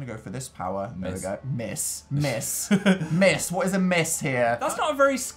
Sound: chuckle

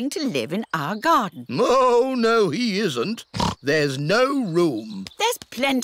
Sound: oinks

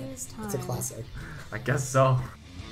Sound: laughs

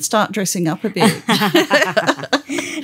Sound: laughter

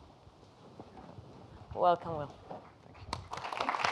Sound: applause

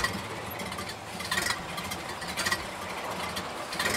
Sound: engine sputtering

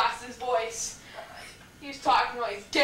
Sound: rasps

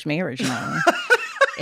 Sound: laughter

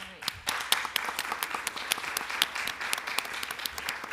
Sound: applause

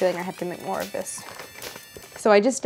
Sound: mobile ringing

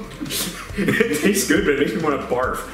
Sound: laughs

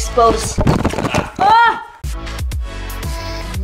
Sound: toy falls on floor; upbeat instrumental music

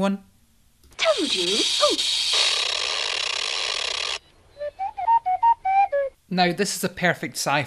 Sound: Bubo tweets

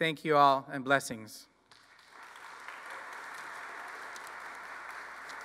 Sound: applause

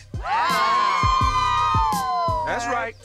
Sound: cheering

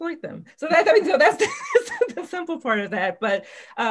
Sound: laughs

